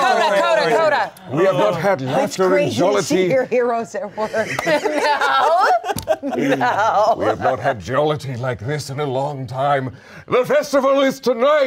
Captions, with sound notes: - Sorry, oh sorry, sorry. - Crazy to see your heroes at work. (everyone laughs) - No. No. - We have not had jollity like this in a long time. The festival is tonight!